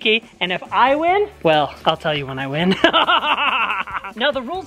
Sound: laughs

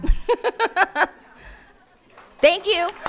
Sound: laughing

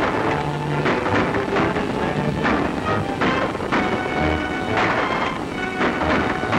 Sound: gun shots

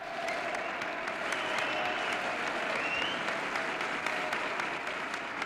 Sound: crowd applauding; crowd cheering

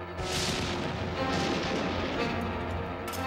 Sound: thunder rumbling

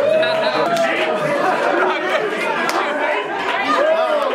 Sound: laughing and cheering

